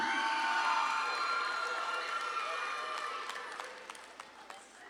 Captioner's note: audience claps and cheers